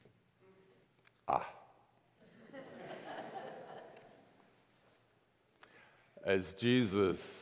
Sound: congregation laughs

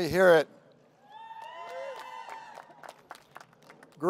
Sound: cheering

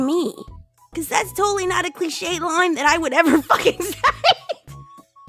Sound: descends into laughter

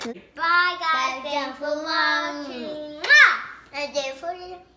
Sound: kisses

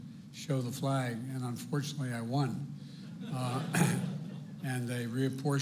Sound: laughter

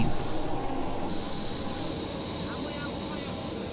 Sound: planes roaring

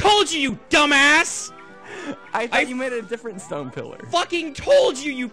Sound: wheeze

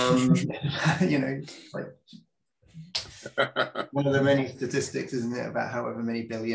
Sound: laughing

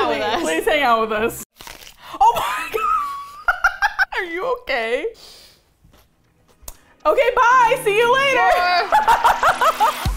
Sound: laughs; onion crunch; laughing hysterically; laughs; upbeat music

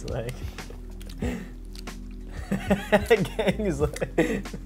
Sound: laughs

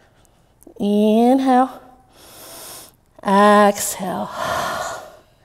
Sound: exhaling

